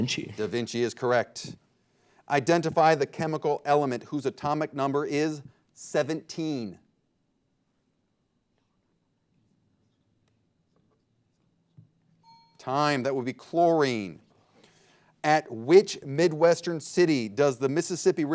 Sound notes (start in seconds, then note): 12.2 bell dinging